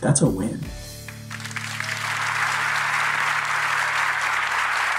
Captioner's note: audience applauds